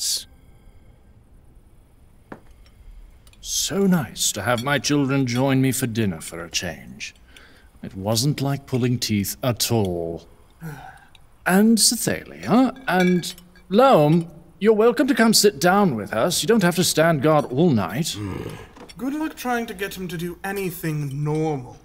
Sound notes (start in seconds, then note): 10.6 Imsep sighs defiantly; 18.1 Loam grunts